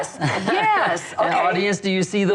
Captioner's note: laughs